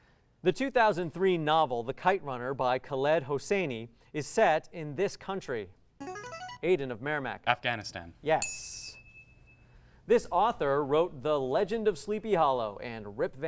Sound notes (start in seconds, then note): 5.6 ringing; 8.4 ding